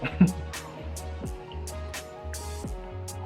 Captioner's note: chuckles